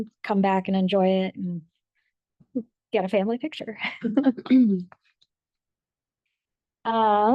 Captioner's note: laughs